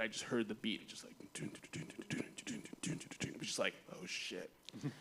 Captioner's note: sings drum beat